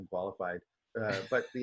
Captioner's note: laughs